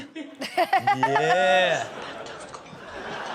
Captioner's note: Chanel laughs